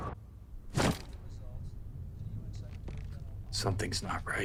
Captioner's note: bag thumps